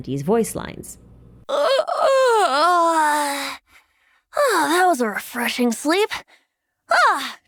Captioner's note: yawn